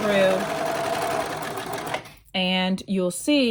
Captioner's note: machine whirring